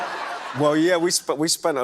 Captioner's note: laughter